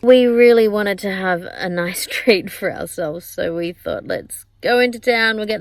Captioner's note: laughs ruefully